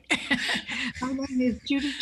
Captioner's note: laughs